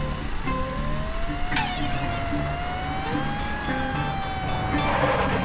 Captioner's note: sirens wailing